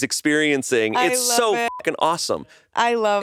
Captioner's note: beep